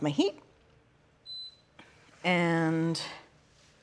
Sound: stove beeps

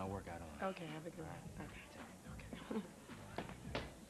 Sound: chuckles

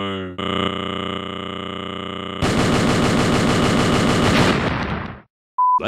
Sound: stuttering

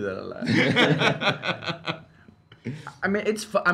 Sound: laugh

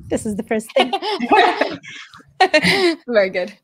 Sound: all laughing

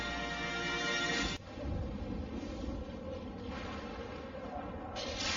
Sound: thunders rumbling; lightning crashing down as rousing fanfare plays

